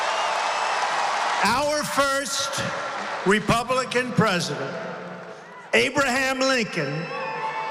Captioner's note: applause